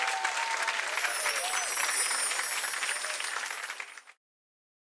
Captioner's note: bells chiming